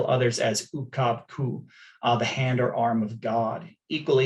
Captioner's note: non-english